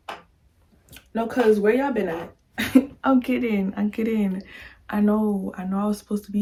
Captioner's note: laugh